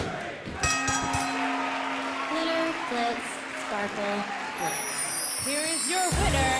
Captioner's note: bell ringing